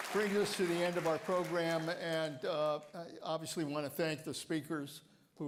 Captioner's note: applause